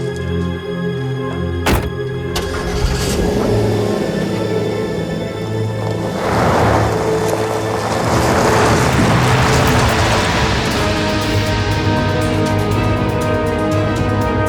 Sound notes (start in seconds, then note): 2.3 engine rumbling; 11.4 suspenseful music